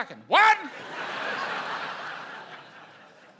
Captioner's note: laughter